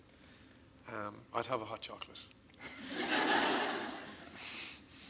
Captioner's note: audience laughs